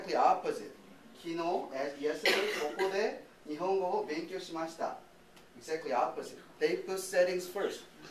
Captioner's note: speaking japanese